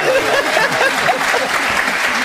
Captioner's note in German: Das Publikum jubelt